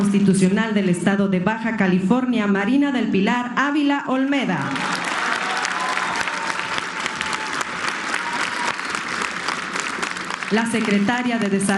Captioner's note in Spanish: aplausos